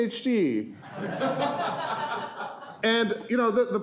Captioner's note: audience laughing